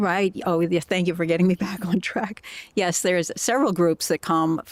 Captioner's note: laughter